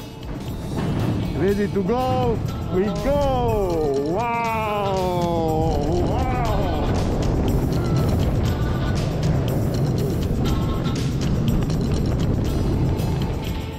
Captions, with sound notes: Ready to go! We go! Wow! [upbeat music] [rollercoaster whirring]